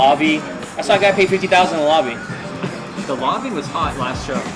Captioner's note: laughs